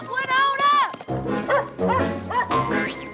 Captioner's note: barking